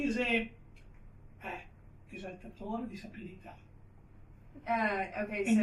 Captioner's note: speaks to Graceanne in Italian